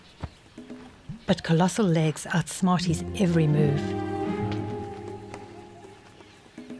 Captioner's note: animals calling